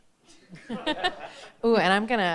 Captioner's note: all chuckle